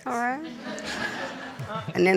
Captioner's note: audience laughing